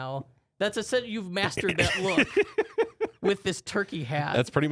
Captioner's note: laughing